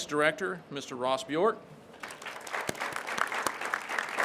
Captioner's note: crowd claps